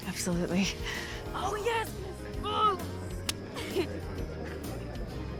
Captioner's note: high-five clap